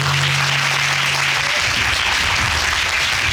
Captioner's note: audience applauding